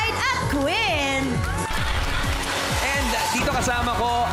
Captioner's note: audience cheering